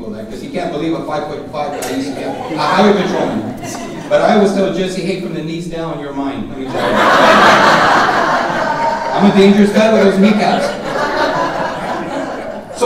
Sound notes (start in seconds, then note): 6.6 audience laughing